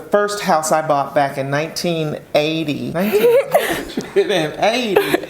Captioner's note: both chuckling